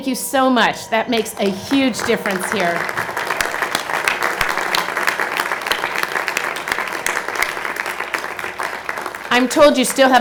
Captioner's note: applause